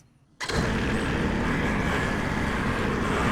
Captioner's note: engine revving